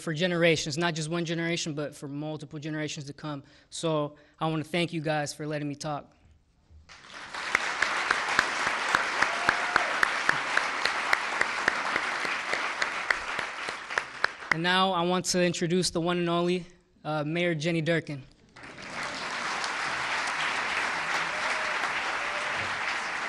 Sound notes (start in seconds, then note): 10.1 applause; 13.1 cheering